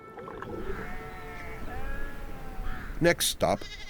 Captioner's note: sheep bleating